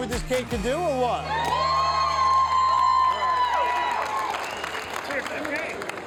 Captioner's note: crowd cheers and applauds